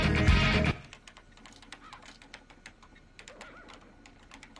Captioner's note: Griffen typing